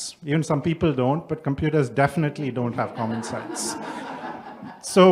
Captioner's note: background laughter